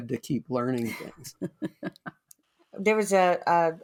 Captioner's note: chuckles